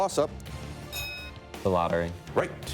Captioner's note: bell dinging